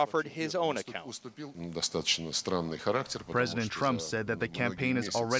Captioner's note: through translator